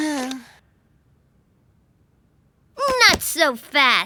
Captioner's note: sighing